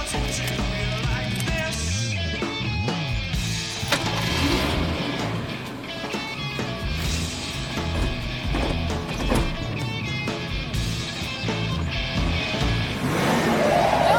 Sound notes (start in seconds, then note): 4.0 car engine starts